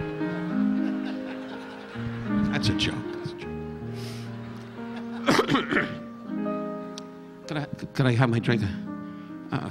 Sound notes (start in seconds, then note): 5.2 Don coughing